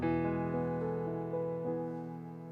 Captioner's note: none